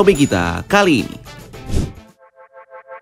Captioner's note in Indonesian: suara transisi